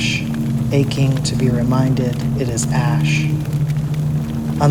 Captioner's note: sound of a forest on fire